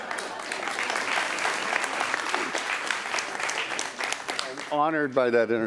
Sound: applause

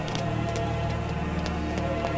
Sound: running footsteps

